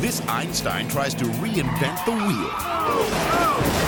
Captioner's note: tire squealing; monocycle crashing